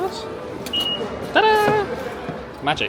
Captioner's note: sensor beeping